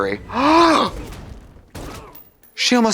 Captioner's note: guns shots; Trixie gulps